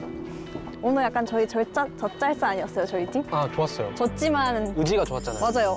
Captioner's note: slow walking